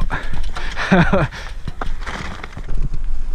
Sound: laughs

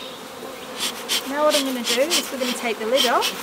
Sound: puffs

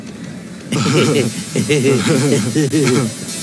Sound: both chuckling

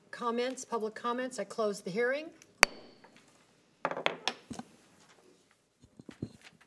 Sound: gavel banging

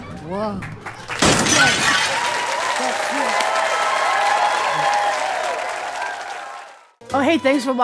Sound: crash

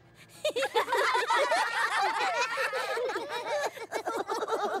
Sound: all giggling

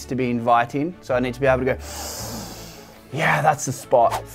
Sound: inhales sharply

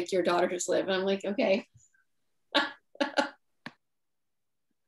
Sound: laughs

